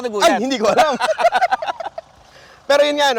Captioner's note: both laughing